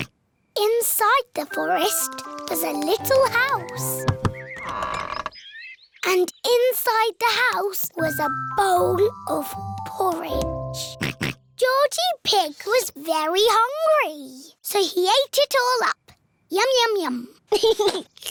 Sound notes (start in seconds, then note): 4.0 door creaks; 10.9 oinks; 17.5 giggles